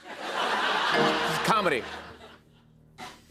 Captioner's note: laughter; beep